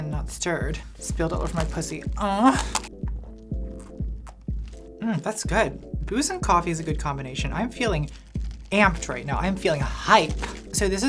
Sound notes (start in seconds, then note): 2.1 groans